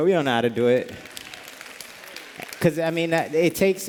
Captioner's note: applause